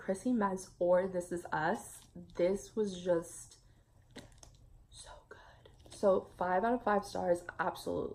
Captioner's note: whispers